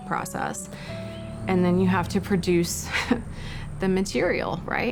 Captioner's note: chuckles